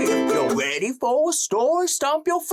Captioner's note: silly noises